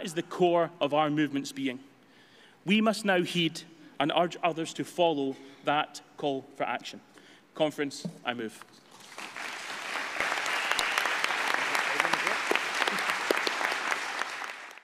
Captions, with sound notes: That is the core of our movement's being. We must now heed - and urge others to follow - that call for action. Conference, I move. [APPLAUSE]